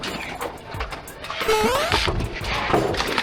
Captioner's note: battle sounds continue; boing sound effect